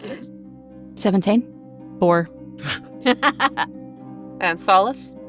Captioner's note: giggles; laughs